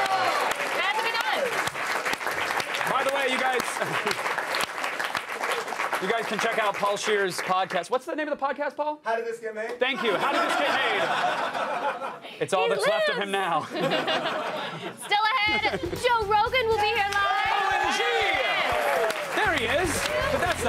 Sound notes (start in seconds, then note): 4.0 applause; 5.3 cheers